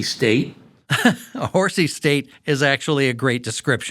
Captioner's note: laughing